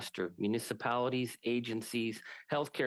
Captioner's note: speaking French